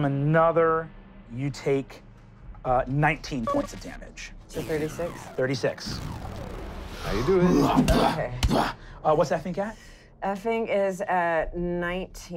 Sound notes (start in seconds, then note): 8.4 growling